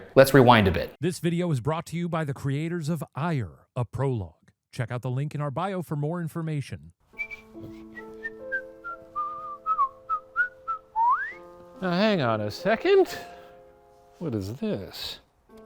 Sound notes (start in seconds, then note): 7.1 gentle music; 7.1 man whistling